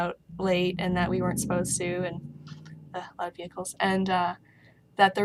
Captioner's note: motor noise